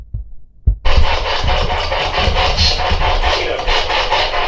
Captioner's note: static